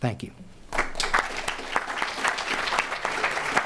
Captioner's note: applause